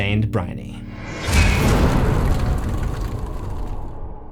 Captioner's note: impact